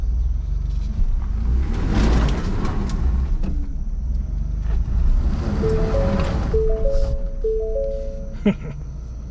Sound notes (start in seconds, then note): 1.6 engine revving; 5.5 alarm sound